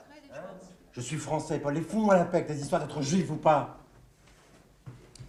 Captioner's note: speaking french